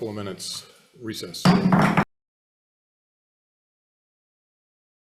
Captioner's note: gavel hammering